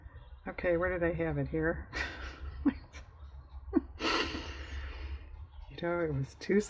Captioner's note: laughs